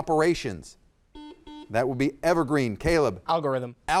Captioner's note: buzzer dings